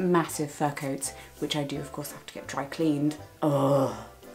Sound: groans

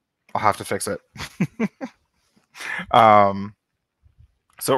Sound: laughs

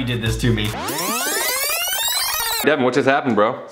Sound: tape player squealing

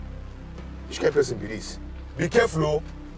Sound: foreign language

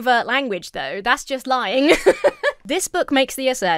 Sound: laughs

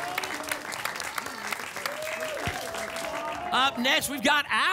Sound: applause and cheering

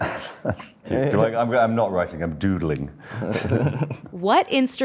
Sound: Daniel and Drew laugh

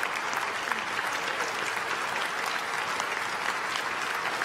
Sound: applause

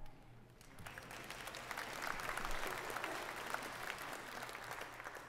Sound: congregation applauding

